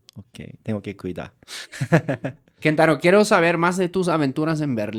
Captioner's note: laughs